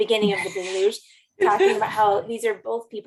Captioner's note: laughter